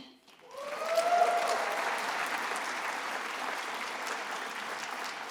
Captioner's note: attendees applauding